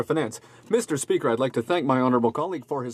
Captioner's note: speaking French